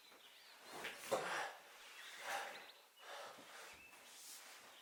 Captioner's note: birds chirping